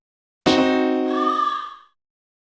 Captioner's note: try again sfx